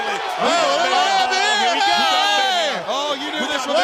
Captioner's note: crowd chatter